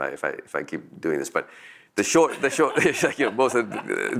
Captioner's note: laughs